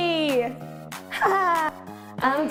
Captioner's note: laughter